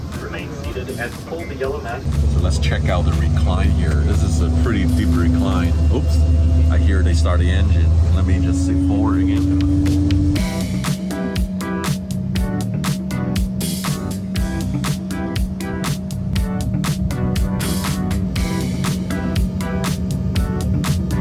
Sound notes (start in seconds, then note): 6.2 engine roaring; 10.1 lively upbeat music